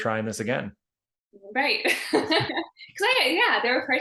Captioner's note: laughing